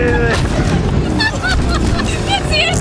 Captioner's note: laughs